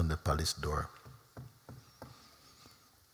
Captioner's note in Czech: Klepání